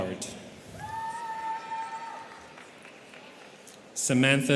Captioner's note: students cheering